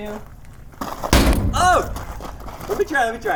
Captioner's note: ball bangs